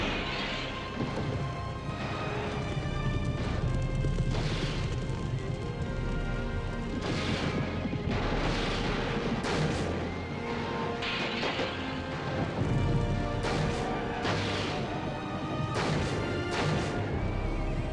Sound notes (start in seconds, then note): 0.1 torch thuds; 0.1 window shatters; 3.2 fire crackling; 6.9 shots blasting; 7.4 hooves thundering; 11.4 window shatters; 12.7 fire roaring; 12.7 intense music swells